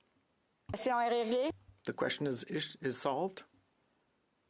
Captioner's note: speaking FRENCH